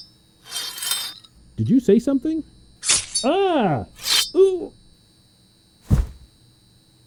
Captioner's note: slashing noise; body thumping against glass